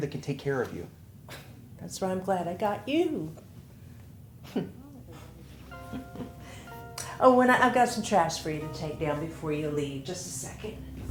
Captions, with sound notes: that can take care of you. - That's why I'm glad I got you. (Caroline laughing) Oh and I've got some trash for you to take down before you leave. Just a second.